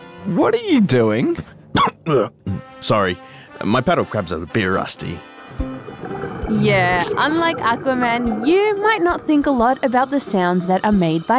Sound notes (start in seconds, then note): 1.7 coughs